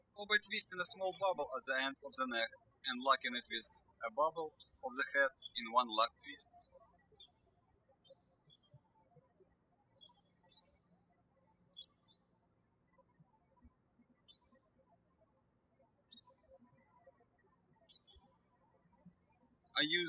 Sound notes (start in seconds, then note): 8.0 birds chirping